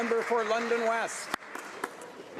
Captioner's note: some Applause